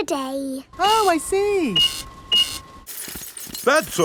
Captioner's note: cash register beeping